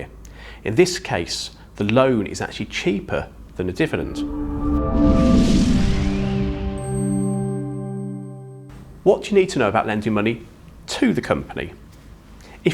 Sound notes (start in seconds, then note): 3.9 graphics whooshing; 3.9 gentle music